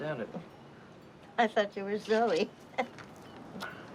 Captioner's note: laughs